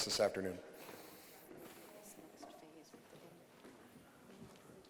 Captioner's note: audience murmuring